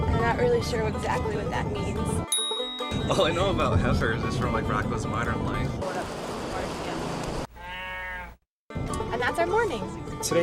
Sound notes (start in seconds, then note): 7.5 cow mooing